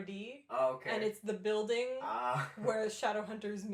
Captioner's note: laughing